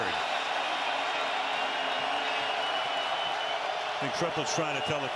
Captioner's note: cheers